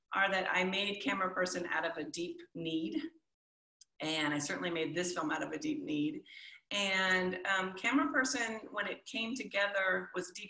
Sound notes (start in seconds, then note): none